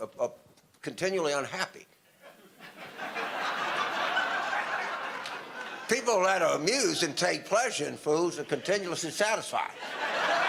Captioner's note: audience laughter; audience laughter